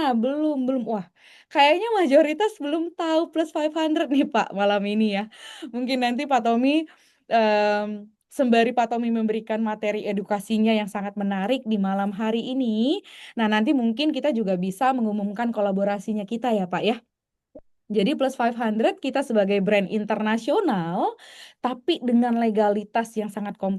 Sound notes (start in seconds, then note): none